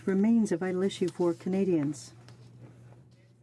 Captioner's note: speaking in french